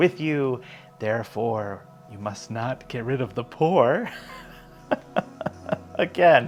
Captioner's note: laughs in disbelief